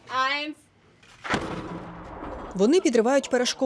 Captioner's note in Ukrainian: звук вибуху